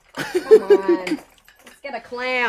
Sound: he laughs

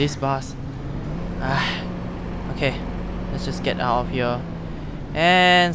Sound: sighs

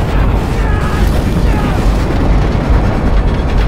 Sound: screaming

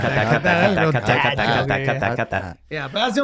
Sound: men chattering

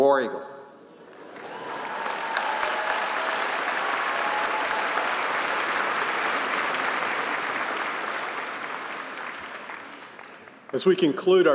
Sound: applause

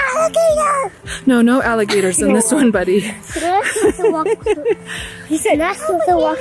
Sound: laughs

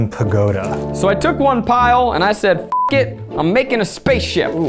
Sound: beeping

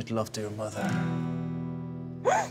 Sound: gasps

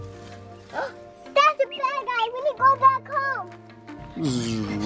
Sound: gasps; roaring

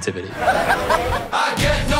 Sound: joyful laughter

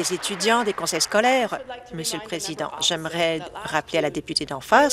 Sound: applause

